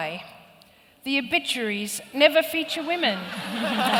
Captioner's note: laughter